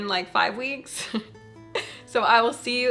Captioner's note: chuckling